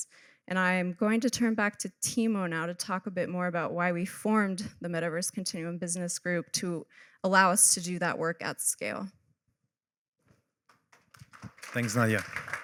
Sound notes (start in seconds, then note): 11.0 applause